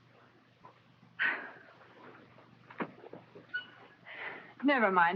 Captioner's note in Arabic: كوني تتنهد